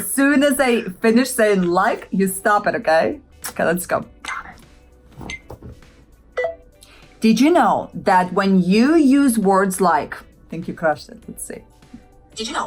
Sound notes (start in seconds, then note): 4.8 countdown beeps